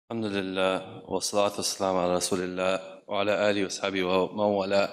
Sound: speaks in foreign language

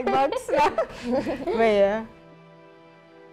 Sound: laughs

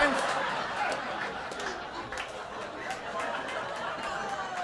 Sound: audience laughter

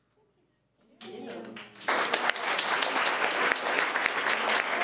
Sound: audience applauding

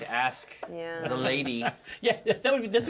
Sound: laughs

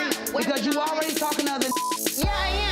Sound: beep

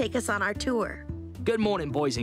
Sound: Australian accent

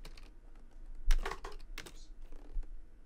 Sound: item dropping

